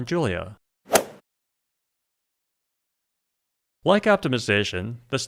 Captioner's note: golf swing sound effect